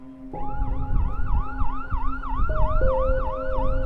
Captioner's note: ambulance sirens, gradually growing louder